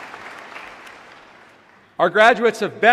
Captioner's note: applause